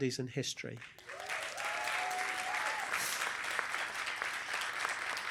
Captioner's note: applause